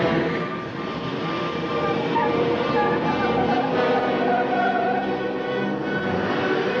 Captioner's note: car engine rumbling; tires screeching